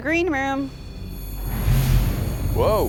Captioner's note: beeping